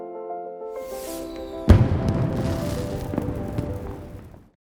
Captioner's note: fireworks explode